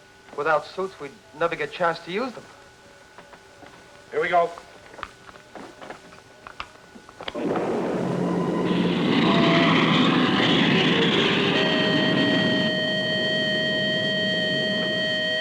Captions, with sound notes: - Without suits, we'd never get a chance to use them. - Here we go. (rocket rumbling) (alarm blaring)